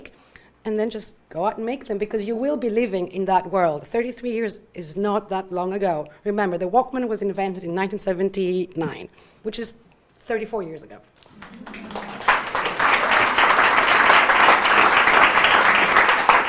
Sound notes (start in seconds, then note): 11.2 audience applauding